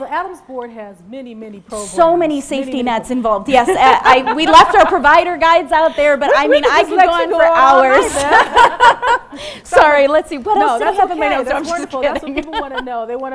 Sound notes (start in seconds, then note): 7.9 laughing